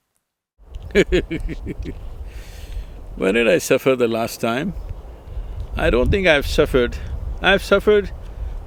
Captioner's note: laughs